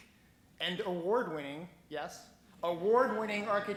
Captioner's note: laughing